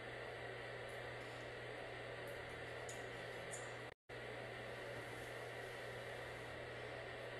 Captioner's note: whispering